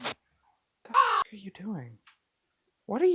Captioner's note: caw